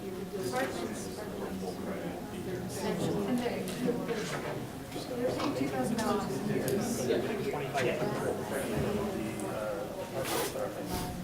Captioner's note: talking amongst audience